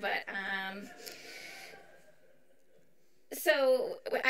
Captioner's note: audience chuckles